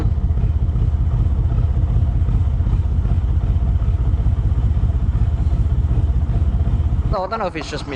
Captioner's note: narrowboat engine sounds